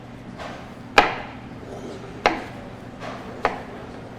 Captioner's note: object thuds